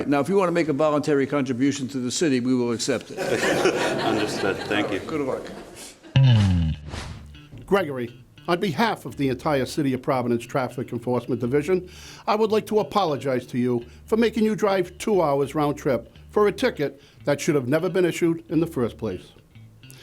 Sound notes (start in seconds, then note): 3.1 laughter; 6.1 upbeat bass music